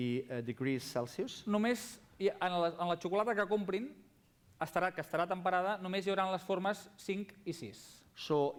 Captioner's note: non-english speech